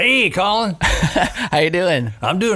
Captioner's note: laughing